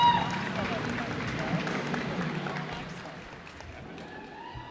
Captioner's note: cheers and applause